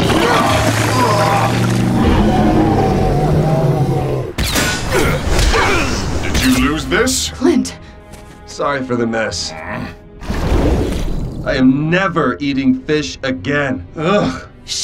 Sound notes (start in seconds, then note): 0.0 gags; 4.4 fighting grunts and impacts; 9.5 grumbles; 13.8 gags